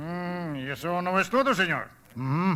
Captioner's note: speaking Spanish